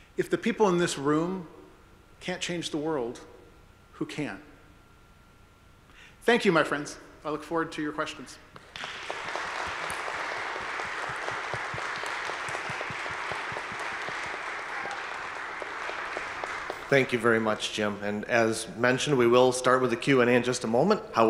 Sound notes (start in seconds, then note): 9.3 audience applauding